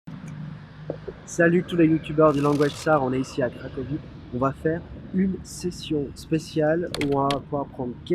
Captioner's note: French